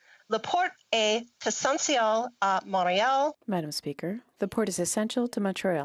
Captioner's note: speaking French